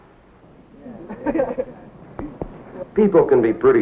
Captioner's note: teens sitting around laughing